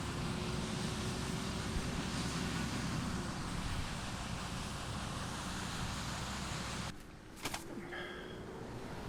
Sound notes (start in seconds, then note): 0.0 combine harvester rumbling